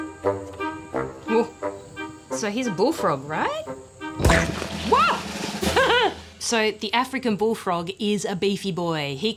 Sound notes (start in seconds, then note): 4.2 bam!; 5.7 laughs